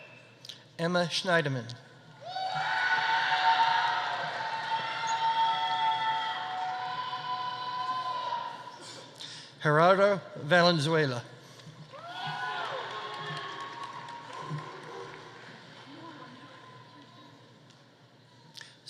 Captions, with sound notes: Emma Shneidman. (audience applauding) (audience cheering) Gerardo Valenzuela. (audience applauding) (audience cheering)